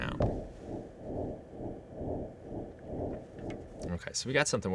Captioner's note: electronic whirring